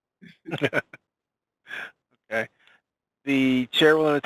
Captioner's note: laughs